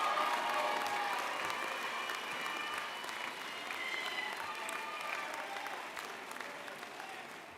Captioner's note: cheers and Applause